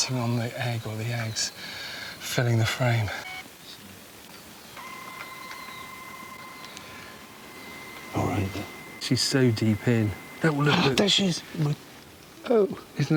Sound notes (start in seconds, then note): 4.7 camera whirring